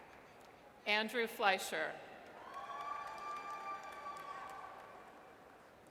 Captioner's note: audience cheers